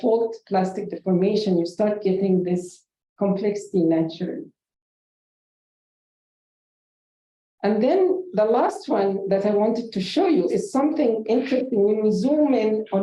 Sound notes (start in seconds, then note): 6.5 silence